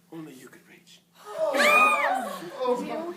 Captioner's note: squeals